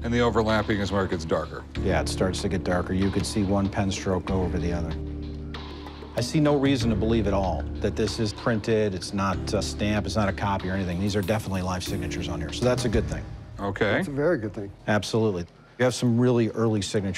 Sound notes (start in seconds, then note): none